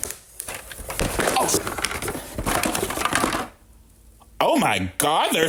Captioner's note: board creaking; items rattling